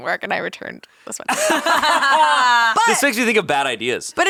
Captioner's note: laughing